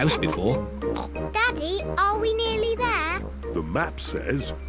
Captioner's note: snorts